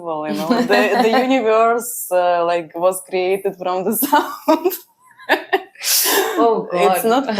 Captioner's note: laughs; laughs